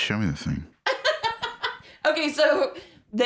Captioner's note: laughs